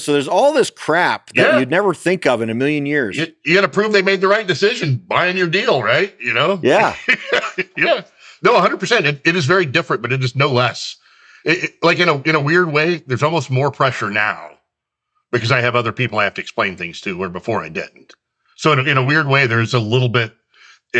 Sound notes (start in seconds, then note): 6.3 laughs